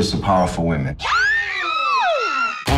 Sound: screaming

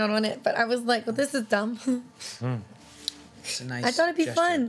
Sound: chuckles

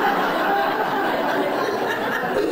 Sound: laughing

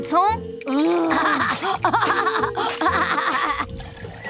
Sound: laughing

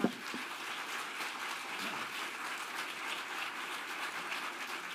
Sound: audience applauding

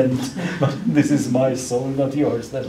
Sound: laughs

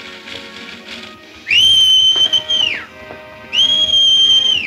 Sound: Montana whistles

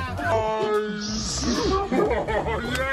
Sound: cheers

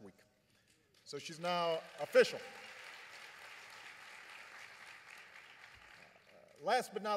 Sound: applause

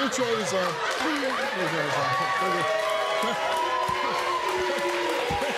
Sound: audience laughs, claps and jeers

